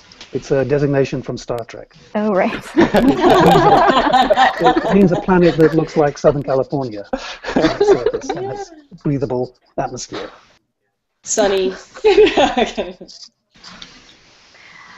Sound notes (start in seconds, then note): 2.7 laughter; 12.0 laughs